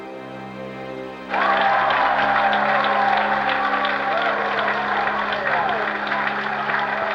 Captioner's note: cheering and applauding